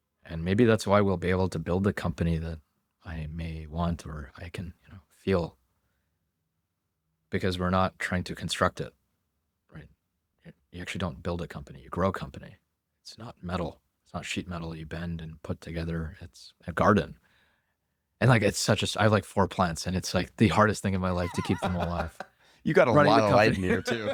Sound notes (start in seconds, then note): 21.1 laughs